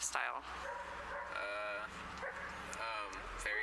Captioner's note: dog barking in background